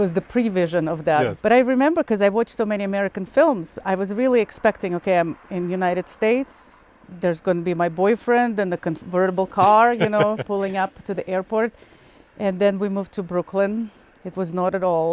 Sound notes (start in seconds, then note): 9.6 laughing